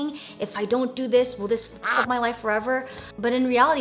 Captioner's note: quacks